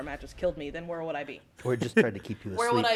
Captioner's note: laugh